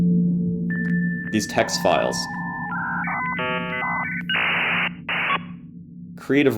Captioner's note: electronics glitching